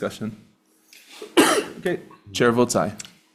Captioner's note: senator coughing